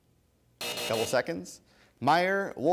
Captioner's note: buzz